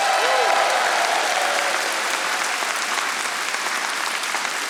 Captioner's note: audience applauding